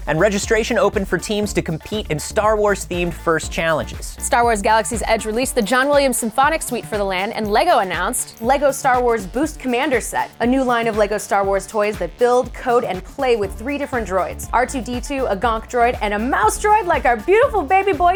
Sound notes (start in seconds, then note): none